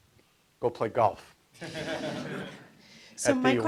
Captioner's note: audience laughs